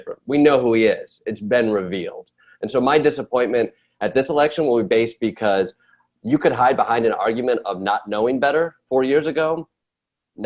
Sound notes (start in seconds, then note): none